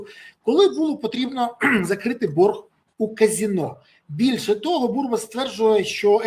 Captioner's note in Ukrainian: прочищення горла